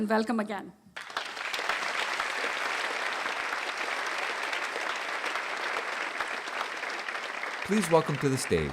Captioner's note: applause